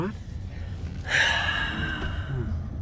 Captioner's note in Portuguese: Suspiro